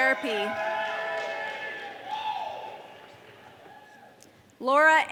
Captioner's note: audience cheering